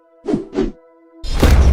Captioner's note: epic flip sound; extremely loud thud